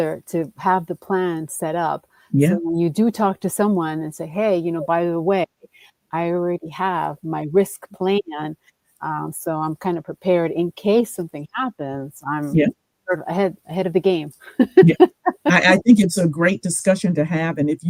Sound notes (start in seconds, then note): 14.5 chuckles